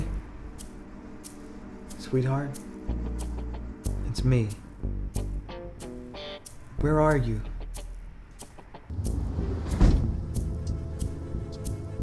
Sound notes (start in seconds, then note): none